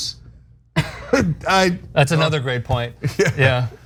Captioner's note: laugh